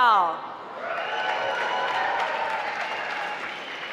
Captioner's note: applause